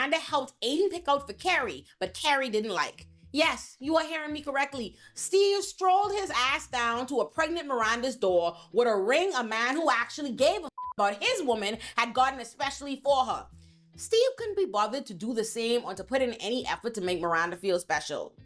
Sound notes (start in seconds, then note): 10.7 beep